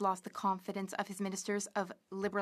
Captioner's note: speaking French